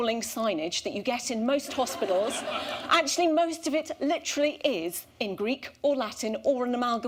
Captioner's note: laughter